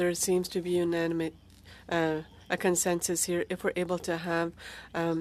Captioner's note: speaking French